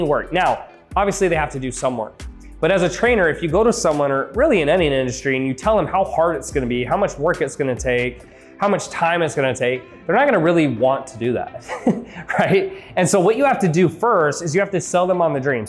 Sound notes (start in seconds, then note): 11.6 laughs